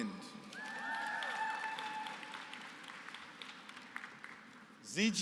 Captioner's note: applause